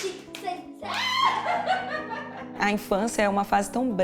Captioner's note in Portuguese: gritos, risos